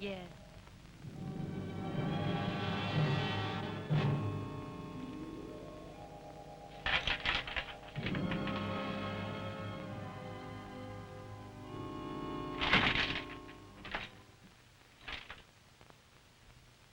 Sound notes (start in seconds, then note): 1.1 dramatic music; 6.8 chains rattling